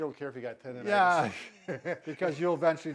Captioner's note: laughing